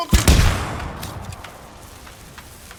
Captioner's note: gun firing